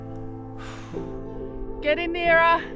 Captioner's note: huffing and puffing